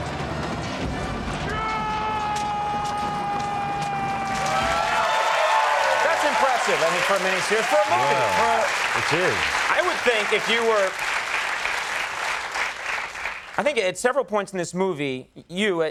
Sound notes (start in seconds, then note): 1.9 shouting; 4.8 applause